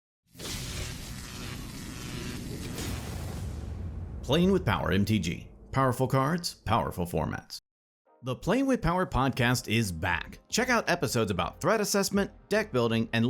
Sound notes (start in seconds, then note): 0.4 electric buzzing